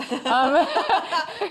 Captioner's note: laughter